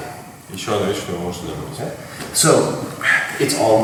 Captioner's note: speaking in a foreign language